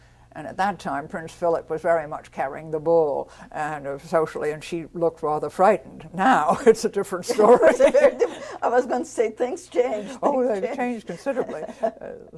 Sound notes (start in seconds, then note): 7.3 laughs